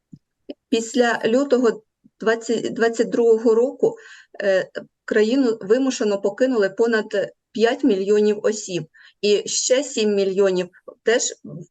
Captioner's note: foreign Language